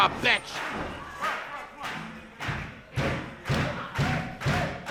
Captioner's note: crowd clapping